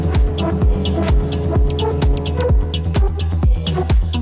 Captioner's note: snowmobile buzzes